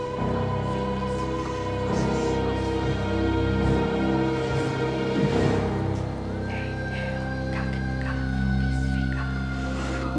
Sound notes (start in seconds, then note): 1.0 dramatic music; 6.7 whispering